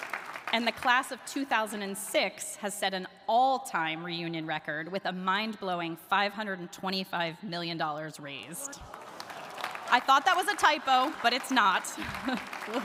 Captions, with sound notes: And the class of 2006 has set an all‑time reunion record with a mind‑blowing $525 million raised. (audience gasping) (audience applauding) I thought that was a typo, but it's not.